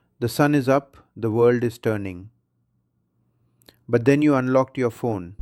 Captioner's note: pause